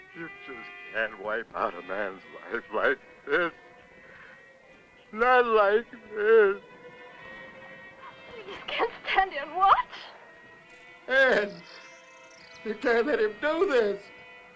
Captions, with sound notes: You just can't wipe out a man's life like this. Not like this! [ SOBBING ] I just can't stand and watch! Ed, don't let him do this!